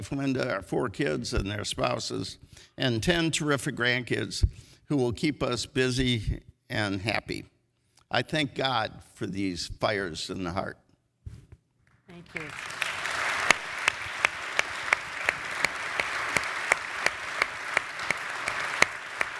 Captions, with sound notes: and especially my wife Linda, our four kids and their spouses, and 10 terrific grandkids who will keep us busy and happy. I thank God for these fires in the heart. - Thank you. (audience applauds)